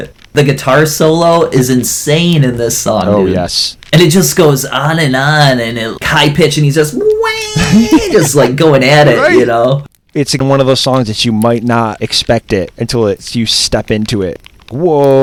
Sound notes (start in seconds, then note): 9.7 laughs